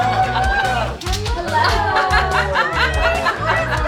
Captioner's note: group laughing; group laughing